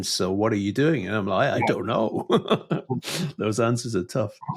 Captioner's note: chuckles